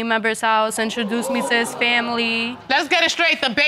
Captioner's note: audience exclaims